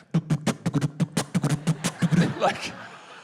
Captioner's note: makes doof-doof sounds